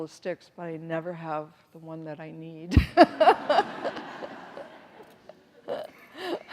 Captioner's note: everyone laughs